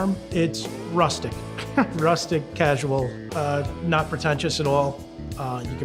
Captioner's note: laughs